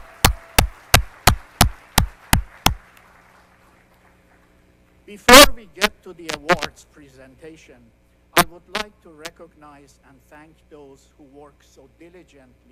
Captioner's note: applause